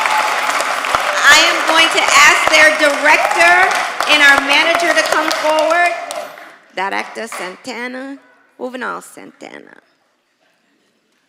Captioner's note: applause